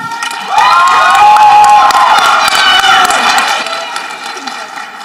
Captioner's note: people applauding and cheering